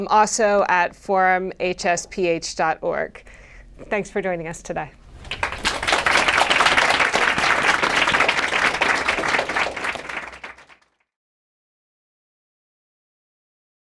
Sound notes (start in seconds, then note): 5.1 applause